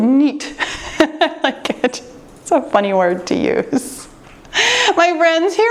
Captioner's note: laughs